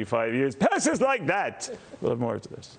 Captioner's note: laughter